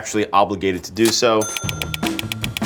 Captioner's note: cash register dings; note clicks repeatedly